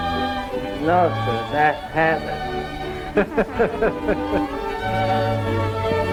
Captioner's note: laughs; cheerful orchestral music